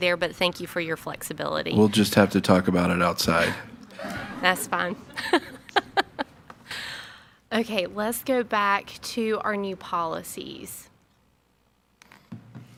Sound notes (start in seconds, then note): 6.4 laughs